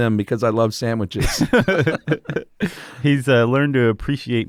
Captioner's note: both laugh